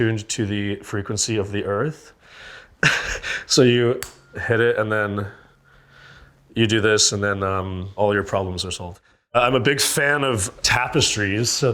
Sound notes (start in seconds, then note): 2.8 chuckles